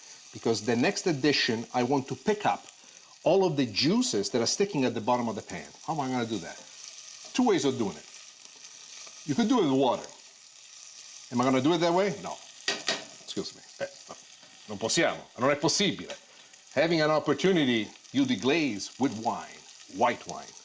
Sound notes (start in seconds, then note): 12.6 taps pot